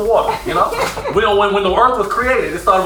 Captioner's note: laughs